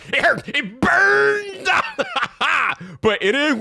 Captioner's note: laughing